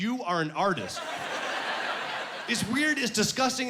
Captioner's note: laughing